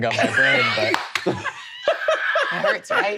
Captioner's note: all laughing